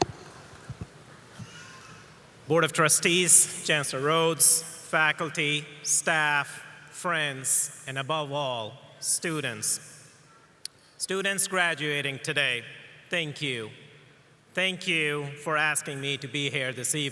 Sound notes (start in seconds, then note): none